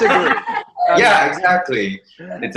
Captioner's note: laughs